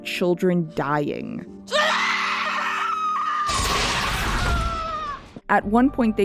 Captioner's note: Bix Screaming